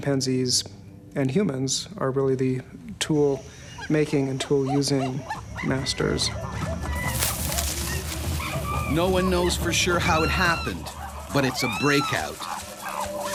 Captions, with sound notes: Chimpanzees and humans are really the tool-making and tool-using masters. - [Voiceover] No one knows for sure how it happened, but it's a breakout.